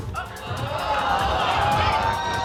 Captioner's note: audience exclaiming